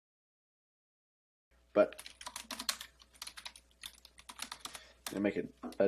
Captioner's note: silence; typing